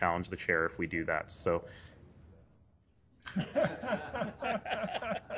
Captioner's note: laughter